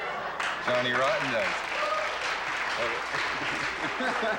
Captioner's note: cheering and applause